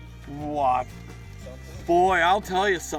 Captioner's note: voiceover